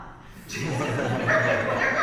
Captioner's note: audience laughs